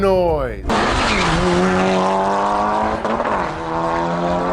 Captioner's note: engine revving